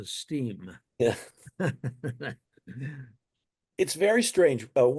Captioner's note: both laughing